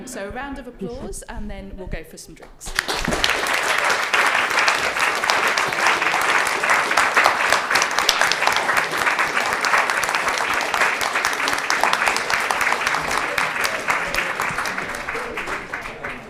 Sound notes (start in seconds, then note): 3.3 audience applauding